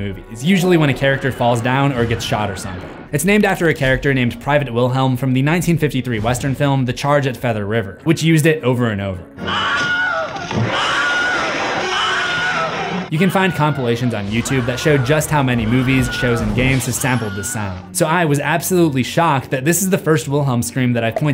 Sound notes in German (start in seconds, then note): 9.4 schreit immer wieder